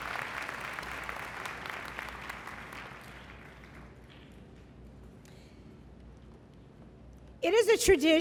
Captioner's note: applause; applause